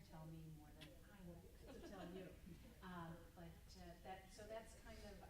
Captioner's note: group laughs; stammers